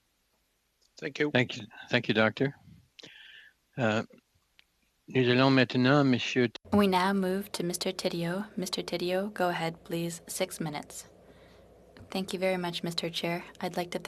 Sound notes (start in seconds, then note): 9.8 speaking French